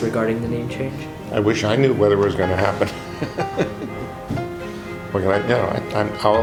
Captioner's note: laughs